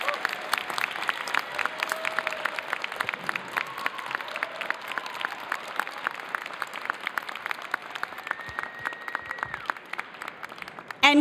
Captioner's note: cheers and applause